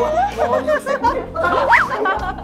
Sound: laughters

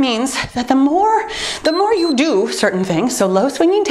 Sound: timer beeps

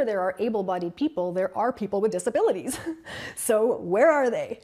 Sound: laughs

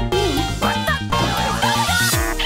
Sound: boink

